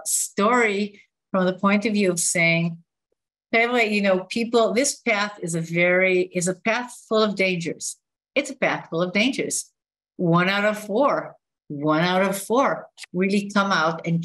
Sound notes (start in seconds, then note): 3.0 non-english speech